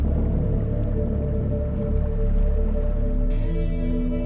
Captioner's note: water bubbling; gentle music